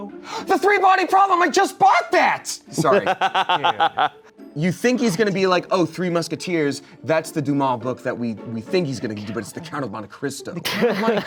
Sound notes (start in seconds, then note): 2.8 laughs